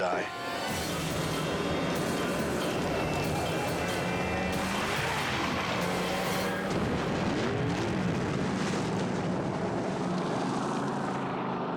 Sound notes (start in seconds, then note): 0.0 dramatic music; 6.3 boat crashes